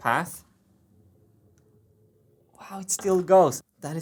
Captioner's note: marble rolling